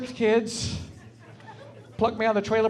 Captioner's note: laughing